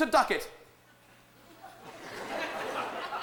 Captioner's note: laughter